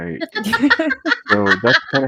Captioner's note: laughs